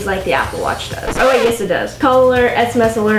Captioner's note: record scratching